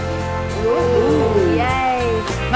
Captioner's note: group cheering